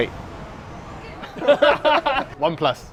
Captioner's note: laugh